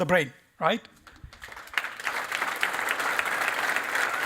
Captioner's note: applause